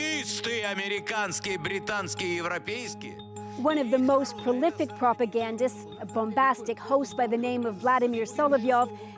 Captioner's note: speaking alternate language